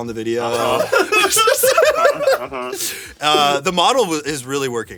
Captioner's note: everyone laughs